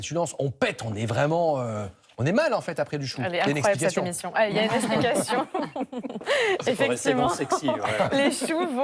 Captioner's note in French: rires